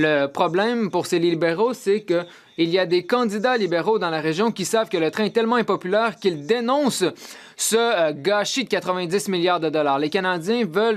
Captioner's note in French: voix de l'interprète